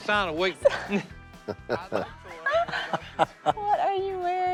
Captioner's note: family laughs